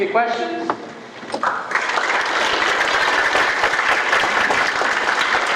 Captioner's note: applause